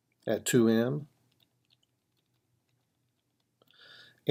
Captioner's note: typing